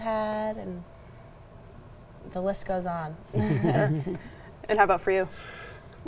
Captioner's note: chuckles